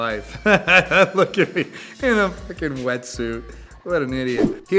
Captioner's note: laughs